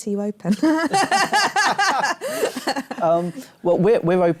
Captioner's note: laughter